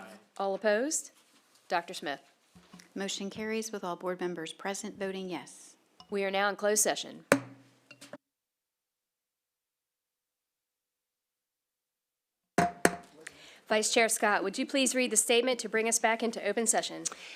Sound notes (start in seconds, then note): 7.3 gavel hitting dais; 7.8 silence; 12.6 gavel hitting dais